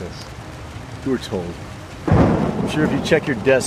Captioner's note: thunderclap